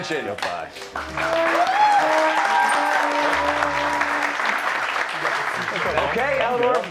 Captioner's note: cheers and applause